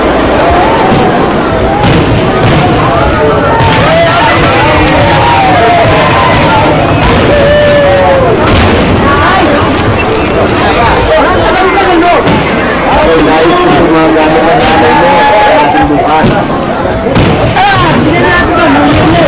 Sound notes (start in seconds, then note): 0.7 fireworks exploding